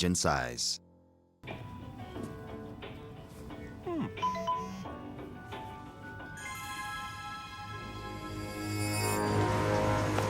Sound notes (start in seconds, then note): 4.2 ringtone beeps